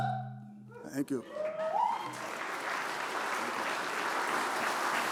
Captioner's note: applause